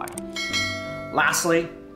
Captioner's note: bell dings